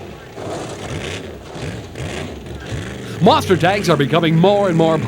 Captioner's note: engine growls and sputters